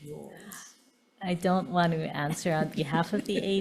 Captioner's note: chuckling